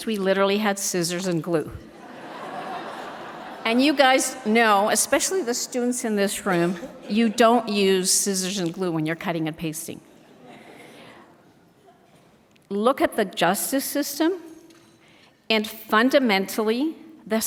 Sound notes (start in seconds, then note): 2.0 audience laughs